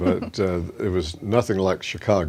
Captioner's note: chuckles